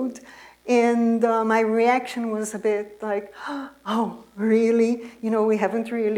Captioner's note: gasp